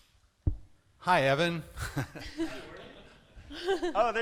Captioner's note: laughter